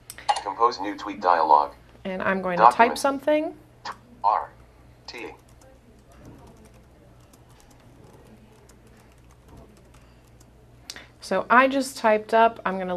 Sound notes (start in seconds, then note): 5.2 typing